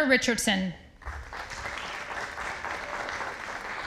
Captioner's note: audience applauding